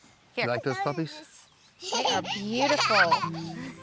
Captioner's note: giggling